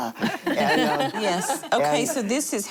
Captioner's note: laughter